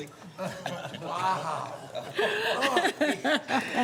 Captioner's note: laughter